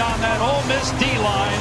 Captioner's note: team clapping and cheering